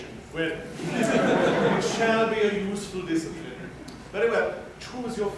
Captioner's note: laughter